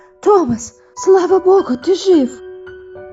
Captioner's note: none